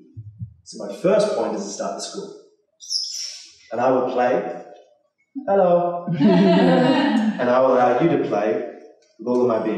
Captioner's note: bird chirps